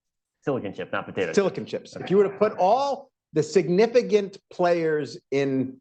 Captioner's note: laughter